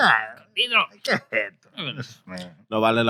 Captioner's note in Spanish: Hablando español